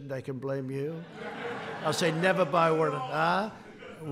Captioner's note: laughter